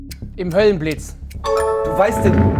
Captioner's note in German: Klingeln